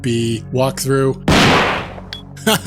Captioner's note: gunshot